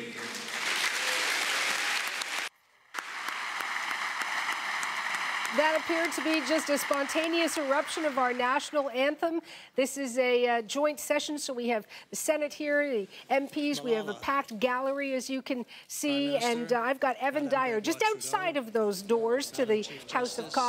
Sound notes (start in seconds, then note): 2.9 applause